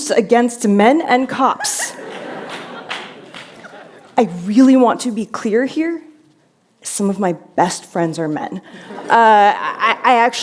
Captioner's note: laughter